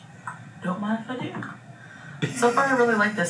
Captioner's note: laughs